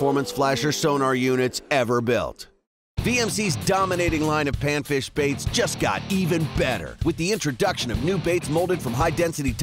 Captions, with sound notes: sonar units ever built. - [Voiceover] VMC's dominating line of panfish baits just got even better. With the introduction of new baits loaded from high-density